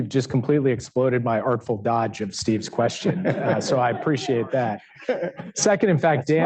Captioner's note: laughter